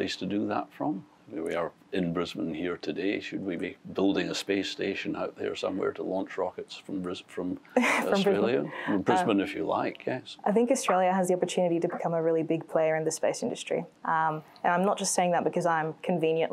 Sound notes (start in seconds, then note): 7.8 laughs